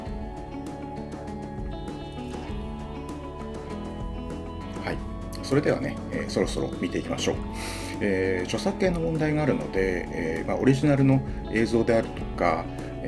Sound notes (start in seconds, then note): none